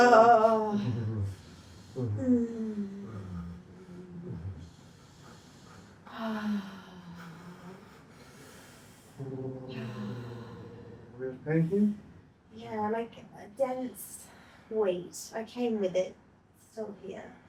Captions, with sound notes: [singing] [singing] [sigh] [sigh] [sigh] Thank you. Wait. I came with it. Still here.